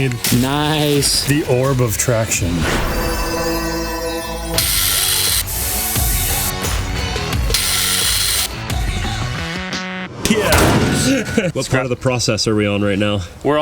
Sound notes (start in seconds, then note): 2.8 enthralling music; 4.2 tools buzzing; 7.0 lively music